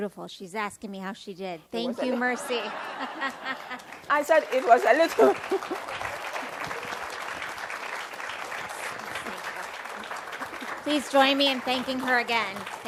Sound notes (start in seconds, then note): 2.0 laughs; 3.3 applause